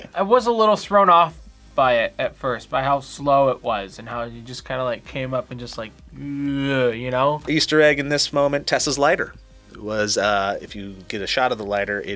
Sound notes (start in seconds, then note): 6.1 groans